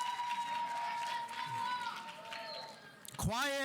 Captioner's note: audience applauding; audience cheering; student yelling